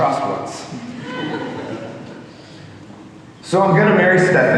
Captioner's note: audience laughing